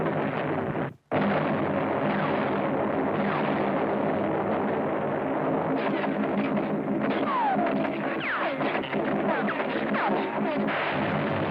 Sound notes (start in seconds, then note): 7.3 bullets ricocheting